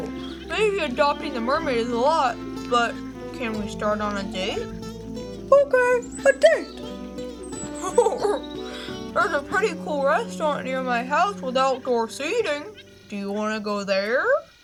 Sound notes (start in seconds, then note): 8.4 laughs